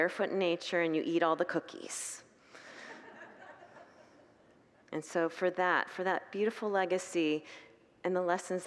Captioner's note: congregants laugh